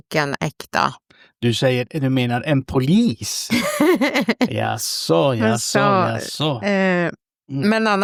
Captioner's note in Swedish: skratt